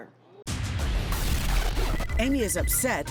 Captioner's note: futuristic glitching